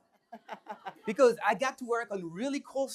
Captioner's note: laughing